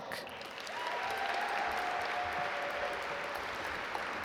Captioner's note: audience applaud